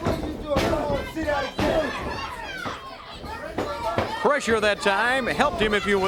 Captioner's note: crowd chatter